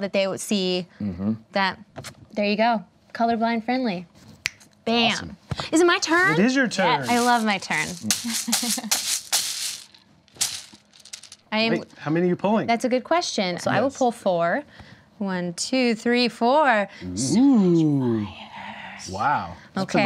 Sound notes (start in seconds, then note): 8.3 rattling pieces